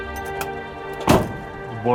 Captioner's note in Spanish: Ruido al cerrar la portezuela